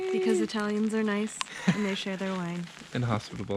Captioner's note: laughs